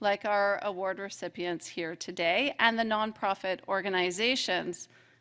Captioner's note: none